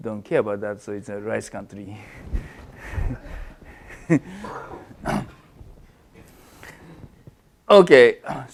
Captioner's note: laugh